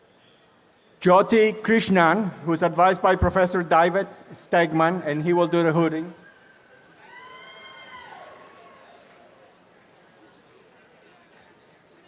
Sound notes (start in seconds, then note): 6.9 applause